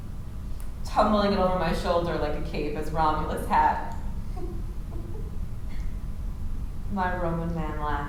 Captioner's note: giggles